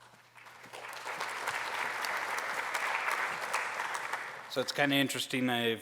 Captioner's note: applause